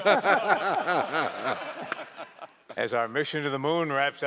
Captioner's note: laughter